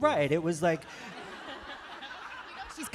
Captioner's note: laughter